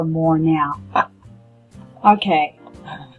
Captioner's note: laughs